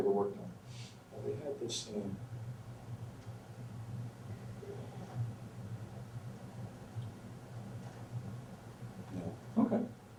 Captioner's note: takes a breath